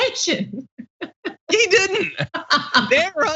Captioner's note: laugh